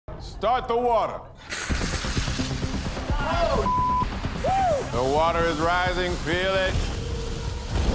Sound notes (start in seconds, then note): 1.5 water splashing; 3.6 beep